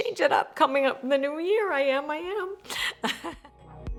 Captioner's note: chuckles; bright electronic music